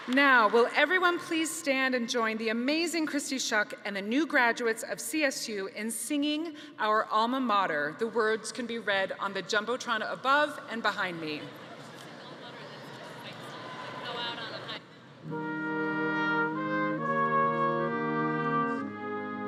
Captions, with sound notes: Now, will everyone please stand and join the amazing Kristy Shuck and the new graduates of CSU in singing our "Alma Mater" The words can be read from the Jumbotron above, and behind me. (audience chattering) (band music)